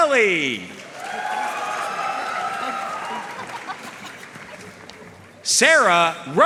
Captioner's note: audience cheering and applauding